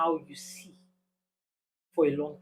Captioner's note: paause